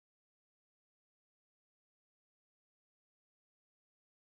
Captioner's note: none